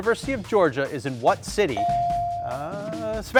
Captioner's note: buzzer dings